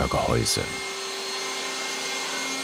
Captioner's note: sounds of sawing